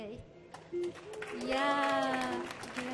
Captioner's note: audience clapping; clapping